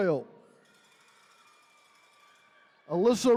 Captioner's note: attendees cheering